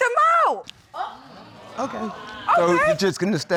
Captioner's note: audience exclaims